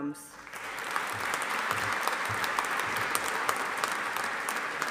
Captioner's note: audience applauding